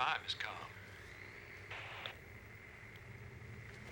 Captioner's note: static